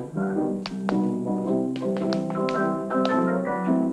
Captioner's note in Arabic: صوت نقر الأحذية